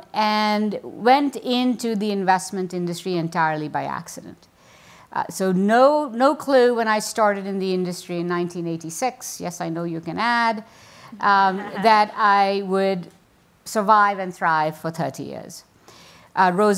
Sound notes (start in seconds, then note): 11.4 audience laughs